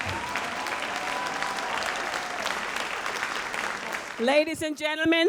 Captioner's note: audience applauds